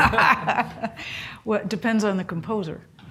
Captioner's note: laugh